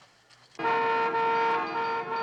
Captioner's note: car horn honking